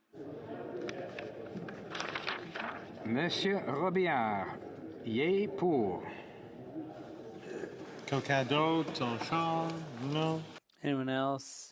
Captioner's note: speaking French